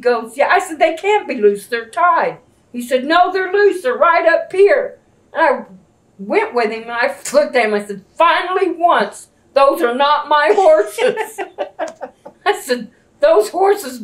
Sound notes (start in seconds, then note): 10.4 laughter